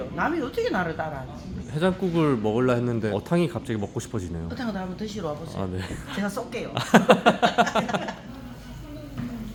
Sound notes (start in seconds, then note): 6.9 laughs